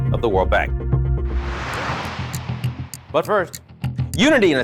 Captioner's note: air whooshing; upbeat music